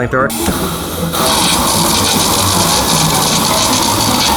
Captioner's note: fire burning